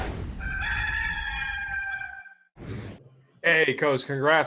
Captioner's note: rooster crowing